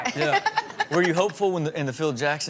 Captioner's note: laughing